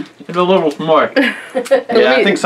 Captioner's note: laughing